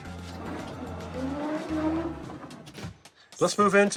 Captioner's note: door swooshing